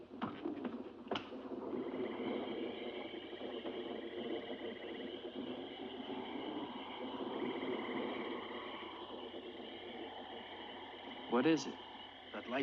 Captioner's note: thunder rumbling; crickets chirping